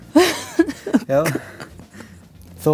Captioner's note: laughs